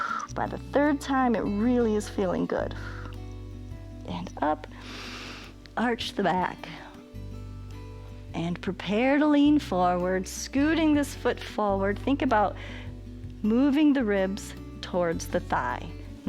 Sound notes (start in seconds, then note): 4.7 inhales